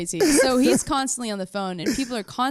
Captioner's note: laughs